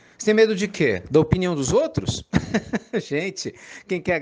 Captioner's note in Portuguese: Risos